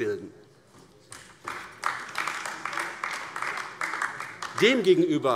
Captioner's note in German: Beifall AfD